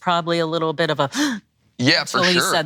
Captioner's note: gasps